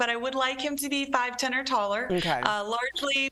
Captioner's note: laughter